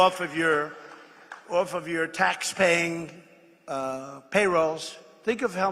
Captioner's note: applause